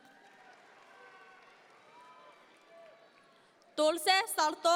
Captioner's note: audience members cheer